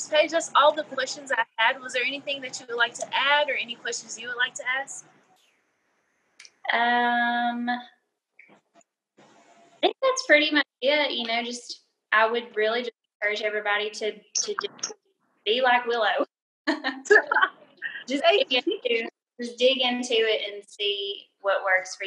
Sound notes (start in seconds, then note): 16.8 laughing